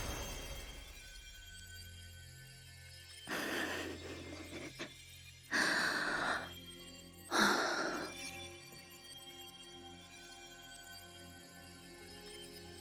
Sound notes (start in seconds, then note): 3.4 sniffing